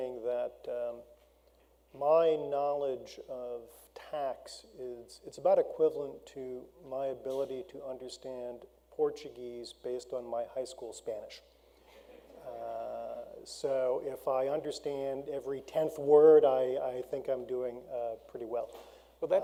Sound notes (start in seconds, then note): 11.9 audience laughs